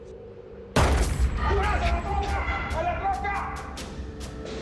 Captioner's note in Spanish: Disparo; Gritos